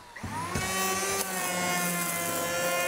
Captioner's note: buzzing